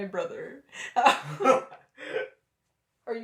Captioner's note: laughter